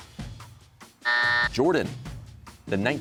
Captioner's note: buzzer